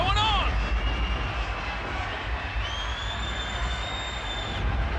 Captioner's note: thunder crashes; crowd cheers